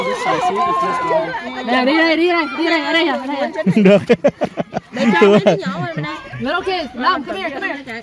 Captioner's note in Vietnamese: Tiếng cười